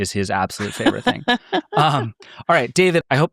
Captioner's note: laughing